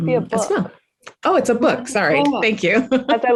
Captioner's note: laughs